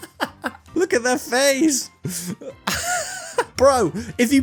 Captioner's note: laughter ensues